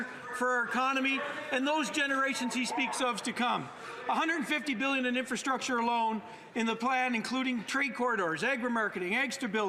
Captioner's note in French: voix de l'interprète